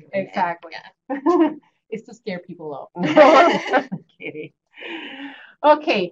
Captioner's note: laughter